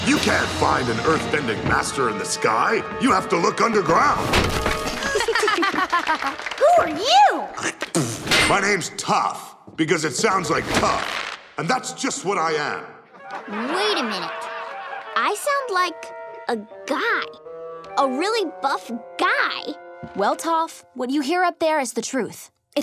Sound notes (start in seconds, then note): 5.0 they all laugh except Toph; 7.4 loud spit; 13.1 audience laughs